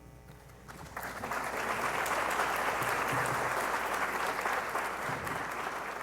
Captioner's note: audience clapping